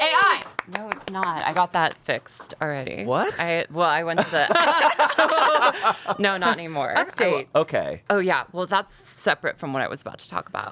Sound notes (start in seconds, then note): 4.2 everyone laughs